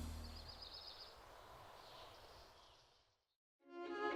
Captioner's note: birds chirping